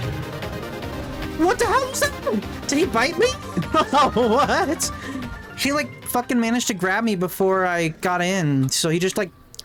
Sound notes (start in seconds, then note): 3.2 laughing